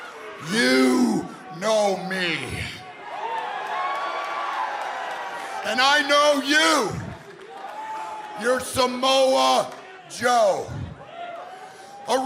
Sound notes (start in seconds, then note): 2.6 crowd cheering